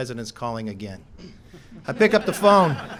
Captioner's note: laughter